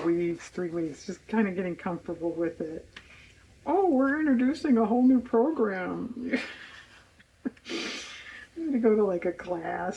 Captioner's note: laughs